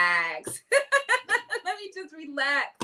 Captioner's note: laughing